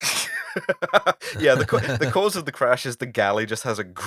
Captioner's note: laughter